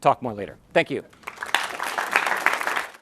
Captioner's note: clapping